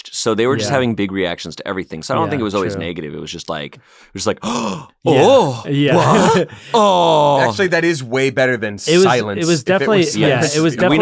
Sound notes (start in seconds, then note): 4.4 gasps